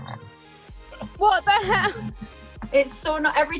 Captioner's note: laughs; chair rumbles